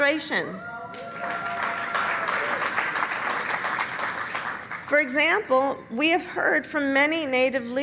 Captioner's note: cheers and applause